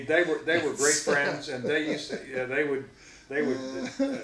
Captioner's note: laughing